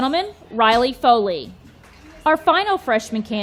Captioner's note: audience clapping